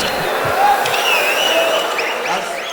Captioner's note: wild applause and cheering for 22 seconds